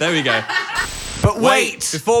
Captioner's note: static buzzing; crew laughing